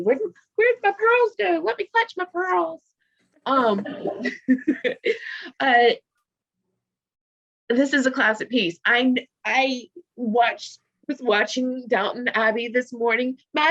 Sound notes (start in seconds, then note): 3.8 laughs